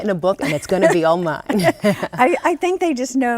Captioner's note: laughs